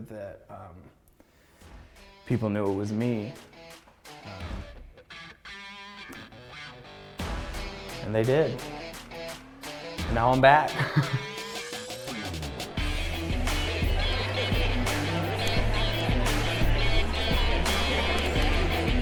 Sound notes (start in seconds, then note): 3.6 hard rock music; 11.6 laughs; 13.3 hard rock music continues; 15.7 crowd chattering